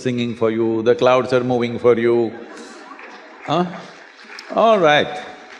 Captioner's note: laughter